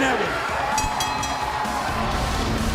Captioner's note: cheers and applause